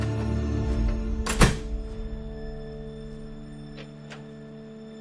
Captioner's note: door shutting